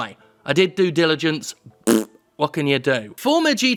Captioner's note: blowing raspberry